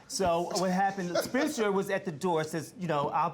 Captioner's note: laughing